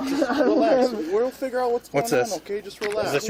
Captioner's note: drunken giggling